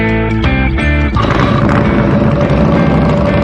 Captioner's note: engine revving up